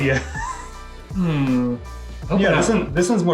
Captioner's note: laughing